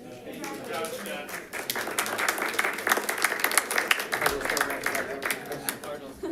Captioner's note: applause